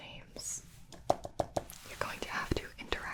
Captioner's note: tapping